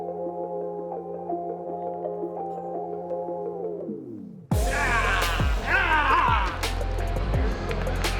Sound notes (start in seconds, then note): 4.6 players cheering